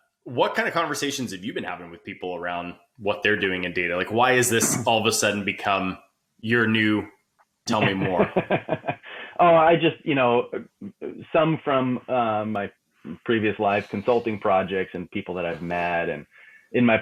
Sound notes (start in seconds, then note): 7.7 laughing